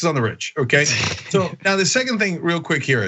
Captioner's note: laugh